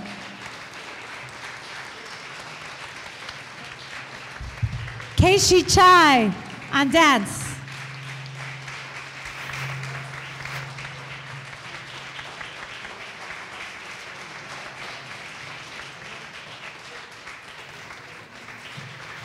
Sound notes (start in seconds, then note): 0.2 audience applause; 8.7 audience applause